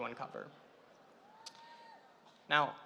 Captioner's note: audience cheering